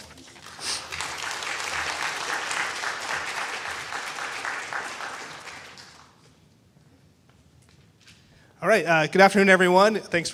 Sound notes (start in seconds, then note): 1.7 people clapping